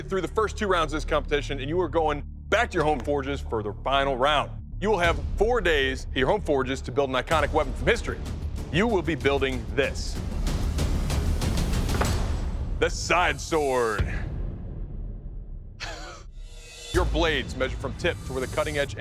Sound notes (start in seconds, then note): 10.2 dramatic music; 15.8 chuckles